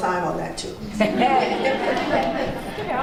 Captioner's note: laughs